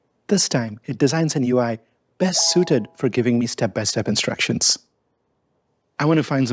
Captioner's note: bells chime